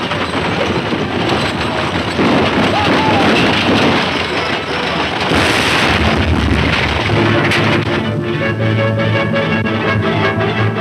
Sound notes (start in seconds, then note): 5.2 loud explosion; 8.1 tense music